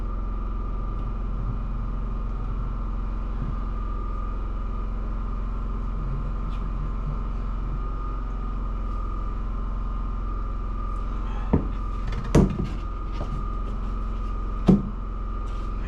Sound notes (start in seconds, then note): 2.0 engine roaring; 5.7 knocking